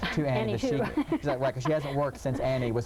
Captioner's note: laughing